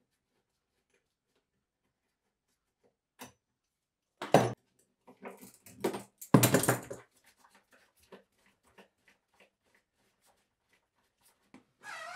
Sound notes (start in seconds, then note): 5.2 tools clattering